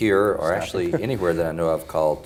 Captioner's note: laughs